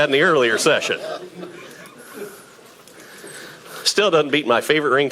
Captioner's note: audience laughing